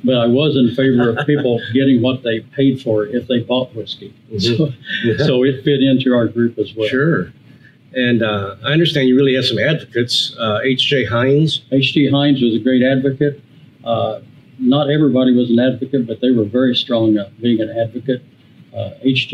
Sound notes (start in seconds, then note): 4.4 laughs